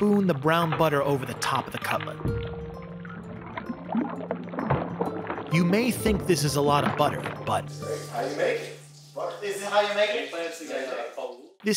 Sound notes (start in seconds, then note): 2.8 bubbling; 2.8 uplifting music; 11.2 background chatter